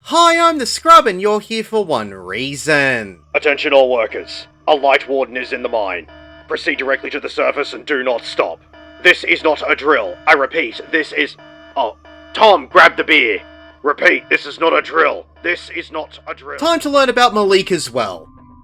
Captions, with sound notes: Hi, I’m The Scrub. And you’re here for one reason. [alarms blaring] [Foreman over intercom]: Attention all workers. A Lightwarden is in the mine. Proceed directly to the surface and do not stop. This is not a drill. I repeat, this is- oh Tom, grab the beer! Repeat, this is not a drill. This is not a drill. Time to learn about Malikah's Well…